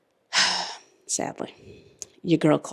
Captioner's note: big sigh